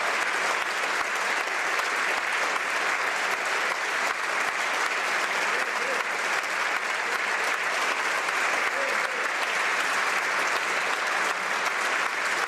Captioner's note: some Applause